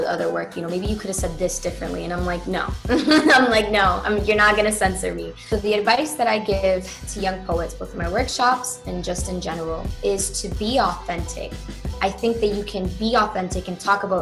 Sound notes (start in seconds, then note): 2.9 laughs